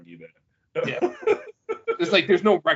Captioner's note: laughing